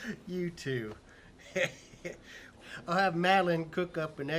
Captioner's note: laughs; chuckles